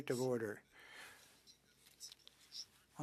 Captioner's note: speaking French